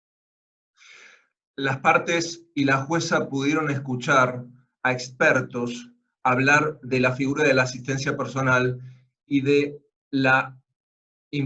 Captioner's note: Spanish